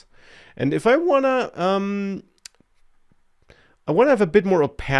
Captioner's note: clicks tongue